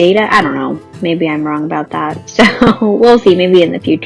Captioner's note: laughs